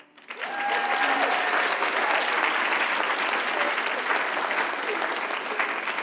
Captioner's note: audience applauding and cheering